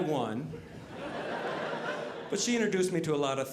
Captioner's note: audience laughing